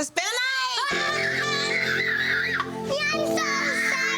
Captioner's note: screaming loudly